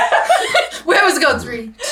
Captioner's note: laughs